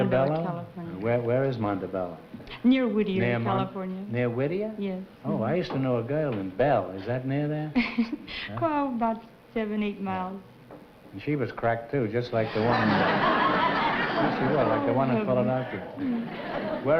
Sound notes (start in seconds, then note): 7.8 laughs; 12.4 laughter